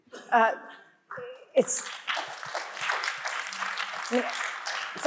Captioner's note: audience applauds